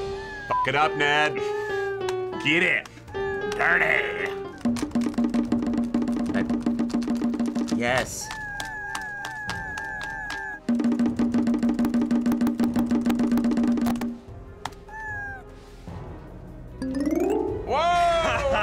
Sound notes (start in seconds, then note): 0.0 Bongo Cat meowing; 0.0 random piano notes; 4.5 bongo drumming; 8.3 Bongo Cat meowing; 10.2 bongo drumming; 10.6 Bongo Cat meows